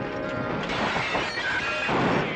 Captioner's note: gunshots